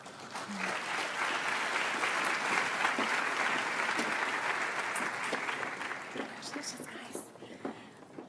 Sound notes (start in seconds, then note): 0.0 audience applauds